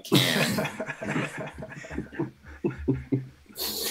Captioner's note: all laughing